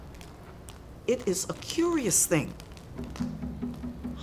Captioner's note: voiceover